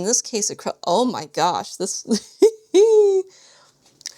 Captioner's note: laughs